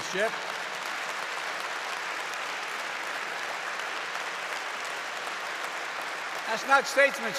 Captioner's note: applause